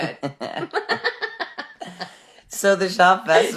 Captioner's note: laughing